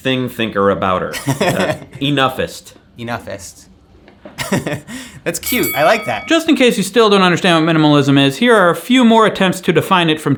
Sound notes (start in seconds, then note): 1.2 laughs; 4.4 laughs; 5.4 bell dinging